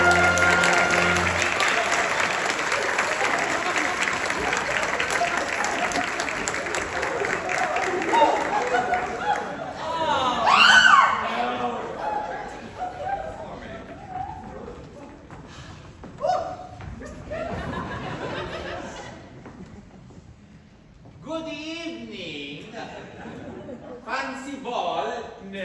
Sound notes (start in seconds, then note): 0.0 applause; 7.5 gasps, screams, noises of general upset; 17.0 laughter